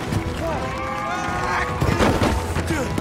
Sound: cheering

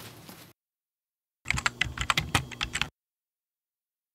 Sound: typewriter keys tap

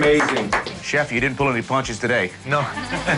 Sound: applause

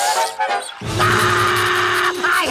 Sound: screaming

